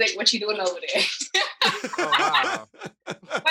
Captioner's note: laughter